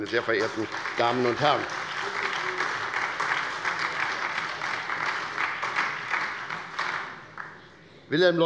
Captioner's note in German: Beifall bei der SPD und bei Abgeordneten der LINKEN